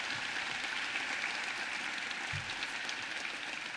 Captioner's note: applause